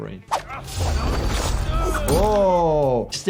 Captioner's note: characters groan, weapon slashes